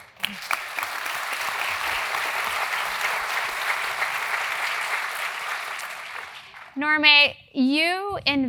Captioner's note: applause